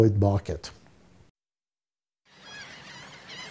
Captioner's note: seagulls Cawing